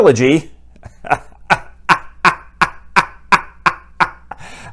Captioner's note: creepy laugh